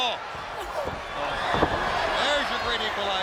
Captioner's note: wrestlers thud